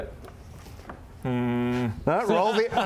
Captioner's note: suspicious hmmm